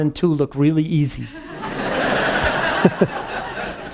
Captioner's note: laughing